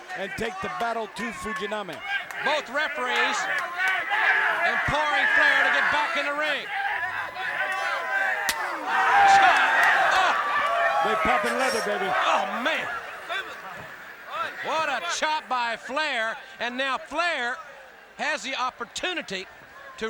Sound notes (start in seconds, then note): 6.7 audience chattering; 8.2 audience cheering